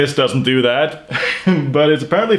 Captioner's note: laughs